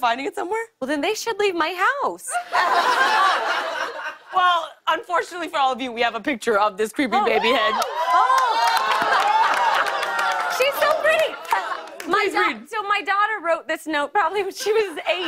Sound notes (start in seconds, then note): 2.3 laughter; 7.2 cheers and applause